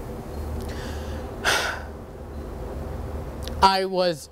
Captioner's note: sighs